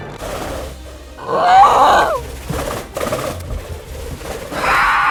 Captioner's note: pterodactyl roars